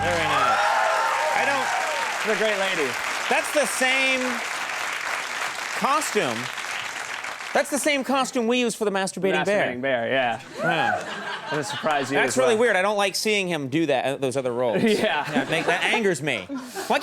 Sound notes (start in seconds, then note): 0.0 audience laughs and cheers